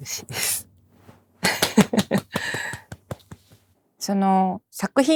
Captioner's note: clapping